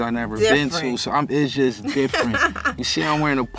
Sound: laughs

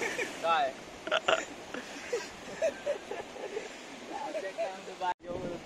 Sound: all are Laughing

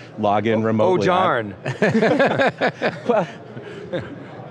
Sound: laughing

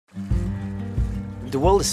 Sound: water splashing

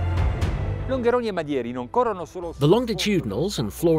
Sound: speaking in foreign language

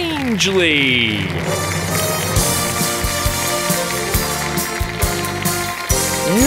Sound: applause

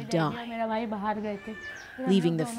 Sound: speaking alternate language

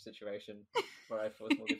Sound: laughs

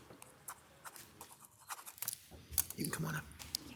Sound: pen scratching

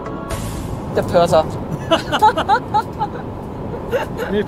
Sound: laughs

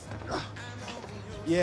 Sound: grunts

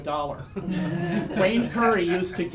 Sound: audience laughs

